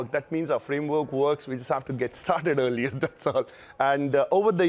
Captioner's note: laughs